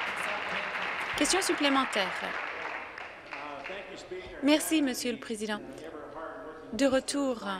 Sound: applause

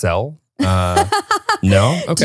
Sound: laughing

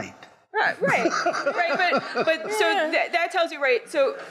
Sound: audience laughing

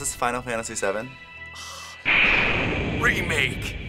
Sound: soft exhale

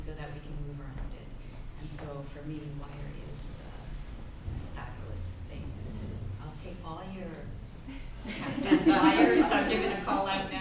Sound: giggling

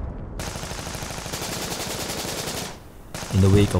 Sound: bombs

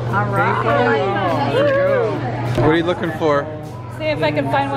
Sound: excited exclaiming

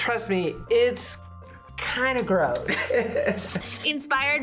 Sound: laughs

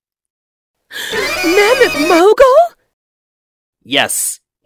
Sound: gasp!

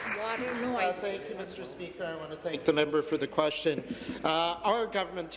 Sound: applause

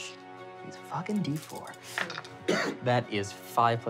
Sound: rolling dice

